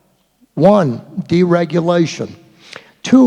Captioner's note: none